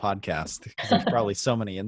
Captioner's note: laughs